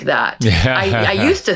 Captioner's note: laughing